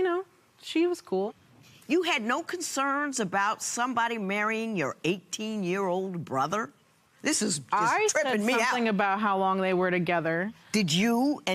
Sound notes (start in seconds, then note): none